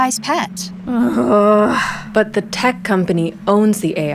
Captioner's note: groan